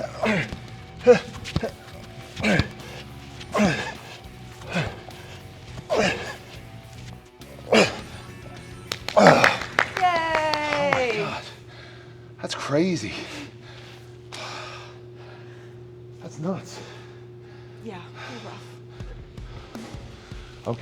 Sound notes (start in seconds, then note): 0.1 upbeat music continues; 8.6 claps